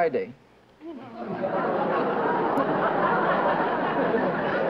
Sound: laughter

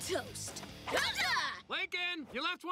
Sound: excited exclamation

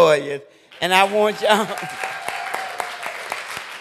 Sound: applause

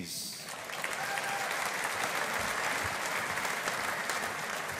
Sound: audience applauding

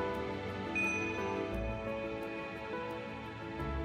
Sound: bell chiming

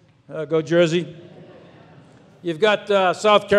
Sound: audience laughs

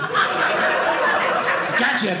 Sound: audience laughing

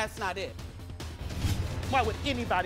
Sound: air whooshes

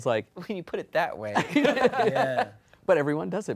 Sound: laughing

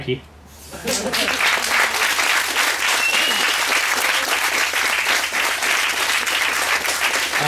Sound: applause

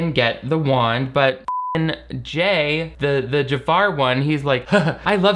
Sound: beep

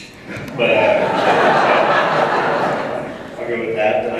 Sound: laughter

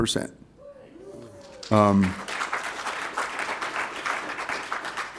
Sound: applause

